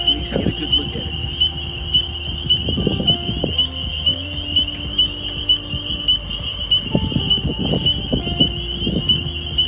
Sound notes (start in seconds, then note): 2.6 calm instrumental music; 2.6 frogs peeping